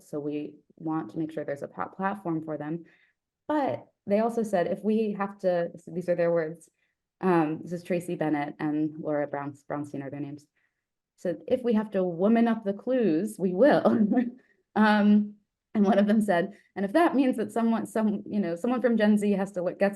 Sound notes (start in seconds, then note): 13.9 laughs